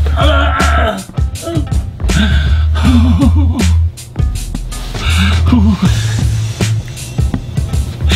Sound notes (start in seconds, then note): 2.0 mr.Z pain and sad crying